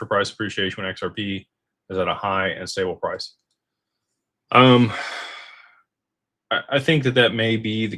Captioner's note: sighs and gasps